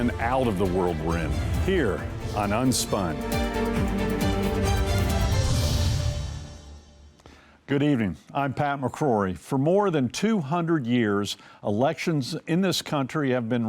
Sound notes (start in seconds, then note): 0.0 logo whooshing; 0.1 screen whooshing; 3.6 dramatic music; 5.8 logo whooshing